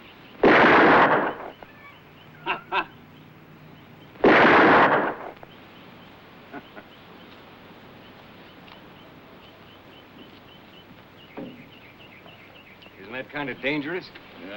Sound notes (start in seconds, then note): 0.4 gunshot; 2.2 laughs; 4.2 gunshot